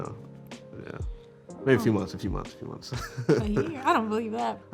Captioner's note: laughs